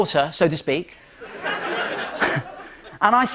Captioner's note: light laughter